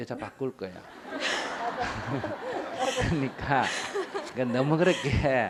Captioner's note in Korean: 청중 웃음